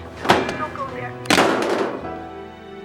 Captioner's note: phone slams